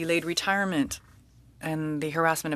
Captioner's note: speaking French